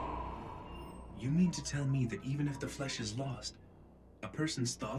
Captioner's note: over comms